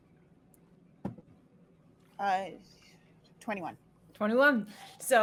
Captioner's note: dice thumping